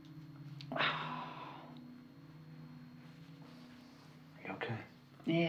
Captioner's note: Lindsey exhales